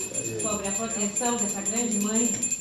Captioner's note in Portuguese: sinos continuam